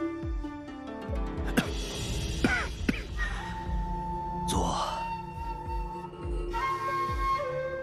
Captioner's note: cough cough